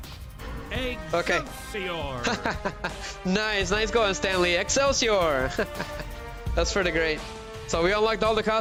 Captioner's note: laughter